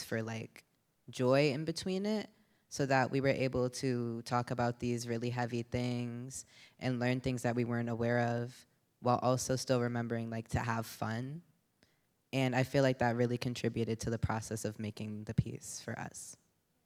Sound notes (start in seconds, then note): none